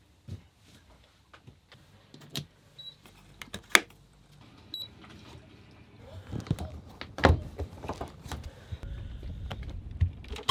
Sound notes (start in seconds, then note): 2.9 sensor beeps; 4.7 depth meter beeps